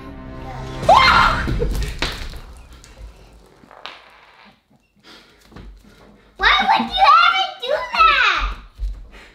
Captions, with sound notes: (Screams) - Why would you ever do that?